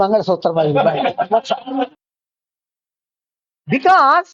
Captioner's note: laughs